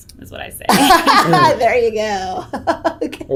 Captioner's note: laughs